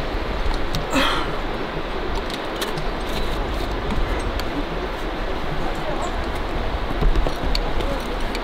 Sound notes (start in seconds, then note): 0.9 groans